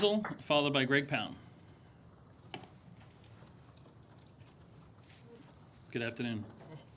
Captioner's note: applause